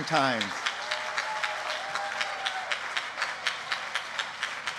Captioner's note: applause